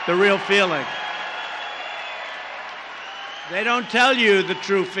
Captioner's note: applause